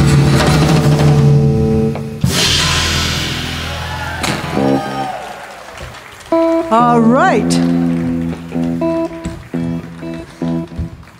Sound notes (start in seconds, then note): 3.3 audience cheering and clapping